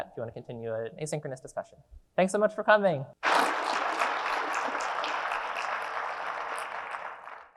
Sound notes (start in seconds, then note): 3.2 audience clapping